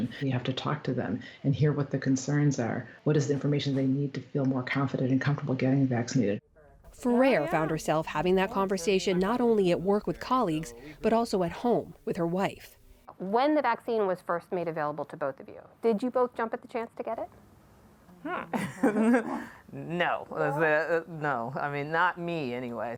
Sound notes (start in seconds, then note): 18.5 laughter